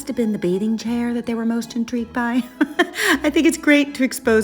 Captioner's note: laughing